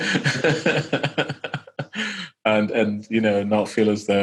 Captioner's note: laughing